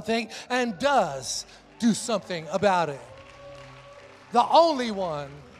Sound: congregation applauds

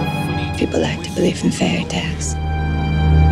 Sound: voice-over

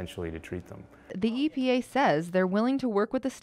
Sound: voiceover

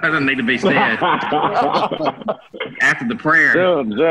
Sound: laughter

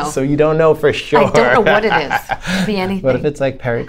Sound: laughter

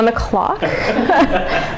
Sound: laughter

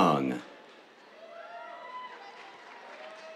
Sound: cheers, applause

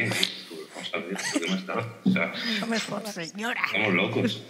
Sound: they laugh

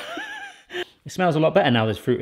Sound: laughs; sniffs

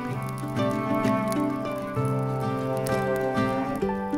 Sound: campfire crackling

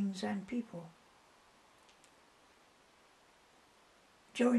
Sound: pauses for 3 seconds

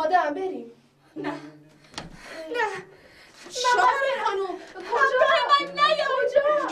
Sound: she cries and go

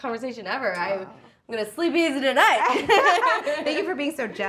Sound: both laugh

